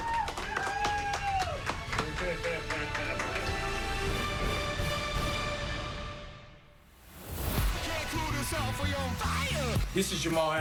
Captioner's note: laughter and applause